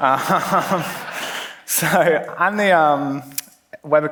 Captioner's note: laughs